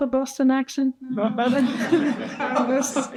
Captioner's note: participants and audience laughing